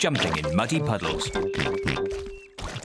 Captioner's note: oinks